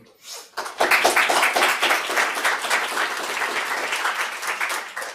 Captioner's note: audience applause